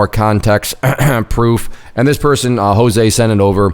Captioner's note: clearing throat